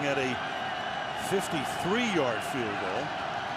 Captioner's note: crowd cheering